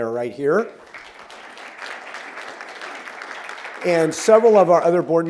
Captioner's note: applause